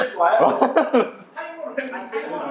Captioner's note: laughs